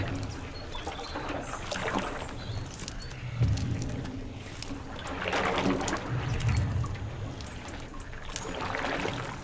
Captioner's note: sloshing water